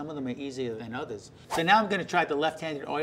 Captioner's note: whooshing